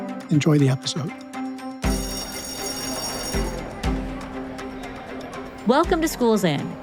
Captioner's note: upbeat music; bell ringing